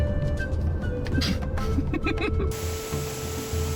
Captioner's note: giggles